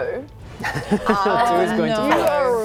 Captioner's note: laughs